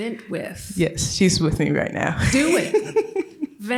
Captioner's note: laughter